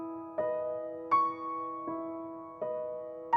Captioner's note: none